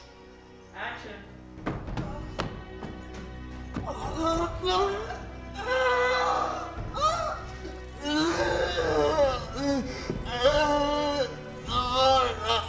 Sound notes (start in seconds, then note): 1.2 groaning